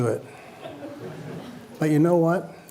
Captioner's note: laughter